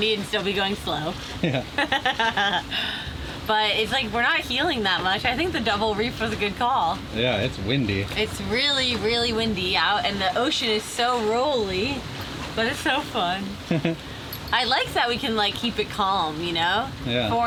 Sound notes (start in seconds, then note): 1.4 chuckling